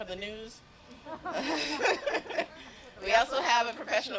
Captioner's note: laughter